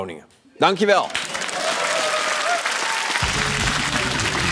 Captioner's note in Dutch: applaus